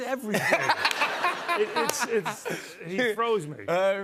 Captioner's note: laughter